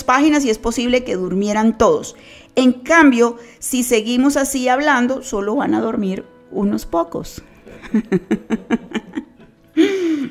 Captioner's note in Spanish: Risas